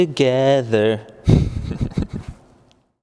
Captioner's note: diabolical laugh